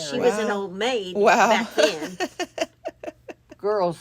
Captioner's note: laughs